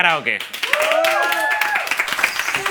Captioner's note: cheers and applause